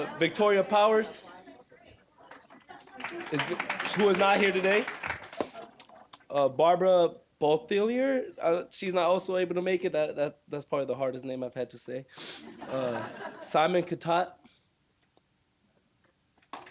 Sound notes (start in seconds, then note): 2.3 applause; 12.5 audience laughing